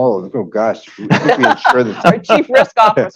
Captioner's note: laughter